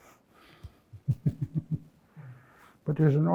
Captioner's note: laughs